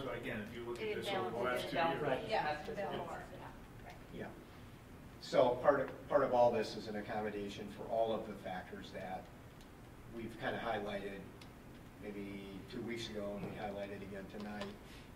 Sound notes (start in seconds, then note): none